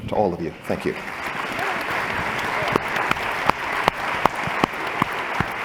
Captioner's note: applause